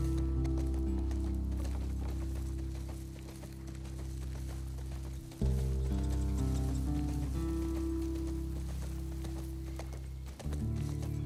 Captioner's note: footsteps